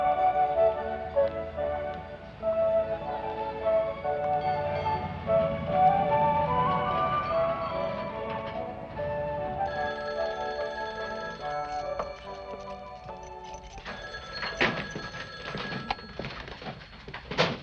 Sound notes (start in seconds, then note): 9.6 phone ringing; 12.9 keys jingling